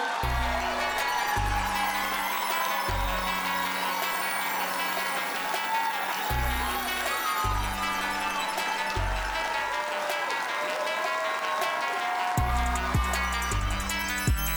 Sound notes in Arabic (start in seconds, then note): 0.3 موسيقى متفائلة; 6.3 هتاف وتصفيق